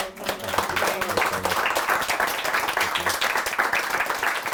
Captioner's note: crowd applauding